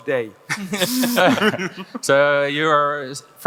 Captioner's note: panelists laugh